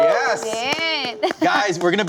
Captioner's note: both cheering